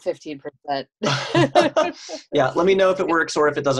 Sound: laughing

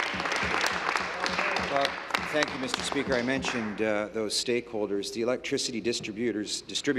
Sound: applause

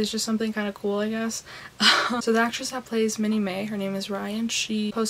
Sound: laughs

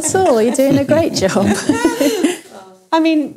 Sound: laughter

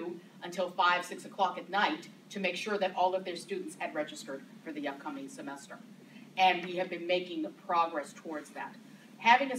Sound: none

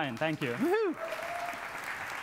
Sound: applause

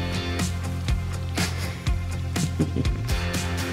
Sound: laughter

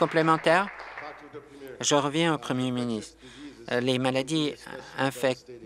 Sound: applause

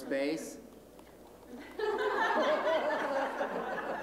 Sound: laughter

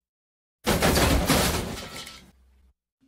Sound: crash!

